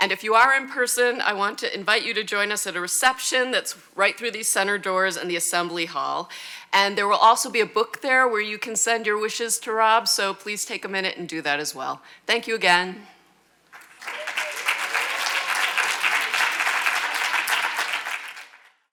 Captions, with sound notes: And if you are in person, I want to invite you to join us at a reception that's right through these center doors in the assembly hall. And there will also be a book there where you can send your wishes to Rob. So please take a minute and do that as well. Thank you again. (audience applauds)